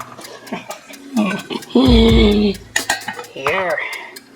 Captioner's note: cackling